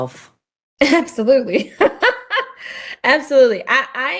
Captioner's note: laughs